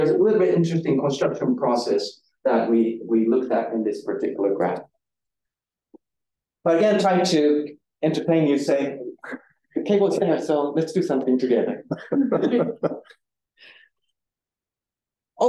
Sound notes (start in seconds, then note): 11.8 audience chuckling